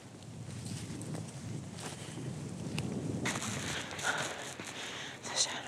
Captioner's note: wind blowing